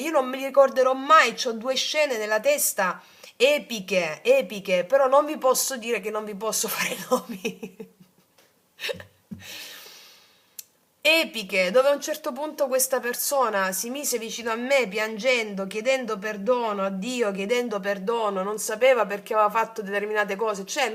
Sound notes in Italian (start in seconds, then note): 10.4 risate